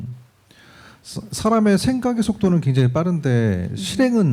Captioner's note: speaking korean